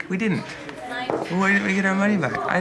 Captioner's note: mimicking kids